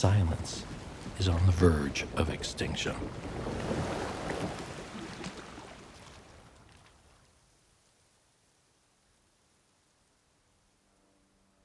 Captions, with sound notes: And silence is on the verge of extinction. [silence]